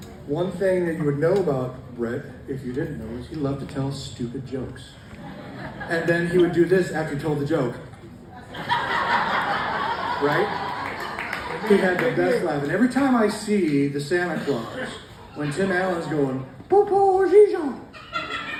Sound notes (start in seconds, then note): 8.2 audience laughs